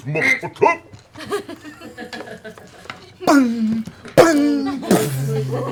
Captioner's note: bang! bang! bang!